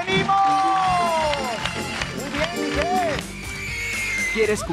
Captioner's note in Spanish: Aplausos